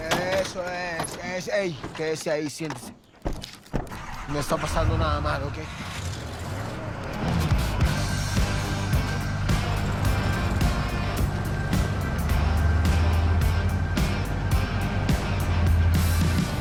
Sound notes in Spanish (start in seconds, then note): 3.9 Ruido al encender el camión; 10.2 Ruido del vehículo